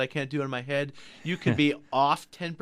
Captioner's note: laughs